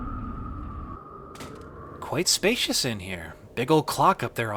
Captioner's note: door opens loudly, echoing; wind howling; omnicutter hits ground